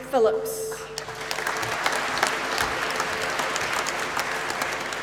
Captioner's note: applause